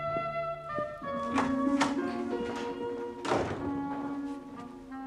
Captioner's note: Pintu terbuka, tertutup